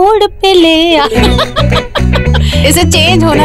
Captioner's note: Vandy laughing